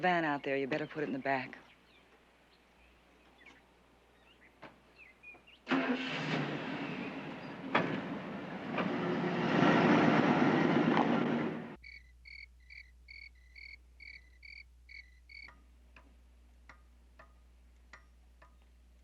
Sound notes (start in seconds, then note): 5.6 starts engine; 11.8 crickets chirping